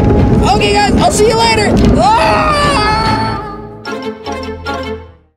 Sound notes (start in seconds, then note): 1.8 shrieks; 2.7 funny music